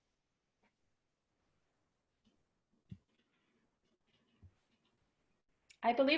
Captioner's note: silence